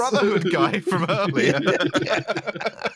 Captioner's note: laughter